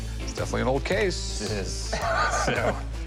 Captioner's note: laughs